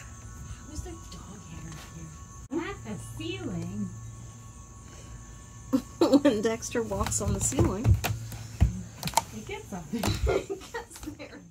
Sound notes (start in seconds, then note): 6.2 laughs